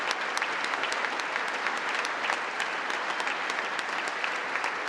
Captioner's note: congress applauding